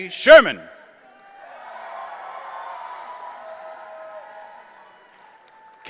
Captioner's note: audience cheering